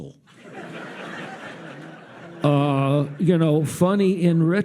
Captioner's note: audience laughs